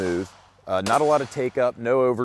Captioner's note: gun shots